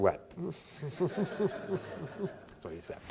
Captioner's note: audience laughter